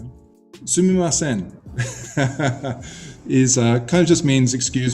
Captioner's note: laughs